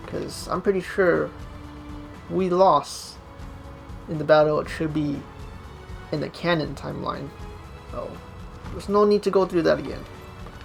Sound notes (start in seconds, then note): none